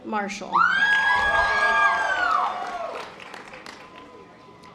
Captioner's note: audience applause